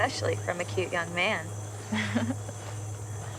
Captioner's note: chuckles